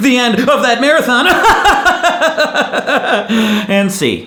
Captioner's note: laughs